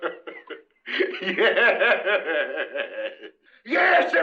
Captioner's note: laughter